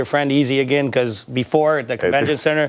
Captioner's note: laughter